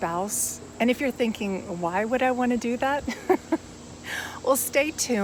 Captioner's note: laughs